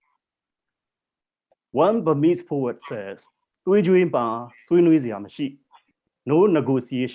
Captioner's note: non-english speech